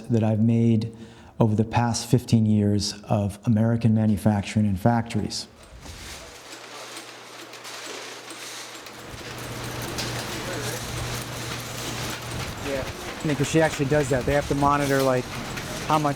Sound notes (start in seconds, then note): 6.9 machinery clacking; 9.3 machinery whirring